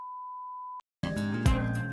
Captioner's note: tone